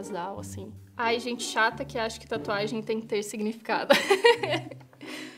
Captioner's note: laughs